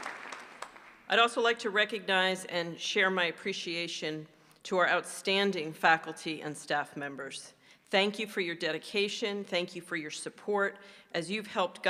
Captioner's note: applause